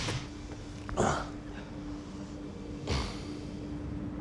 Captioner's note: Mark groans